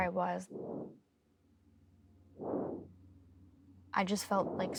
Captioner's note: breathing into mic